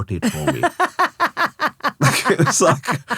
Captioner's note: laughing